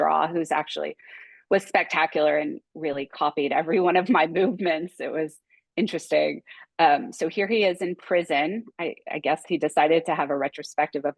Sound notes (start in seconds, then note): 4.1 chuckling